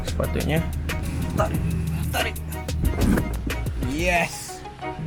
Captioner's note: panting